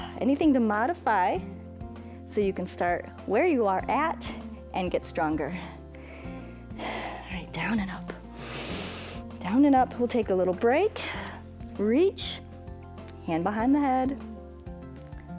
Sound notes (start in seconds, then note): 8.3 inhales